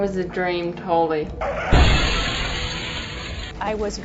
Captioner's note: crashing - glass shattering